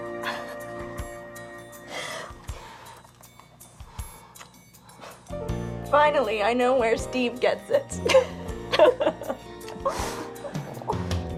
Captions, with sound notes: (upbeat music) - Finally, I know where Steve gets it. (both laugh)